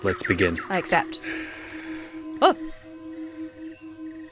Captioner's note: guru breathing deeply